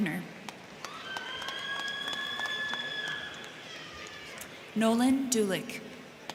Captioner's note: crowd clapping; crowd cheering